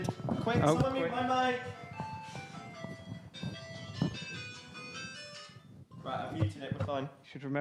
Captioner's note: phone ringing